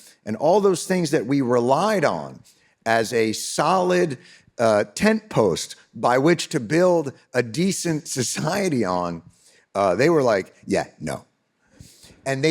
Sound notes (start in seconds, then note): none